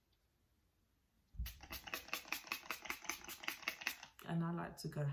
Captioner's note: spraying